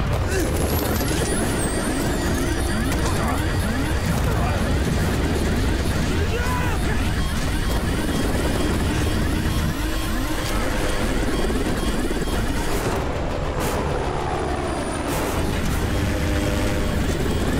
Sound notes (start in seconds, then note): 0.6 beeping; 6.1 screaming; 6.9 beeping